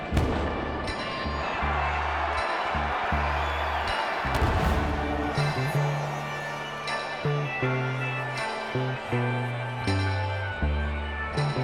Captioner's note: cheering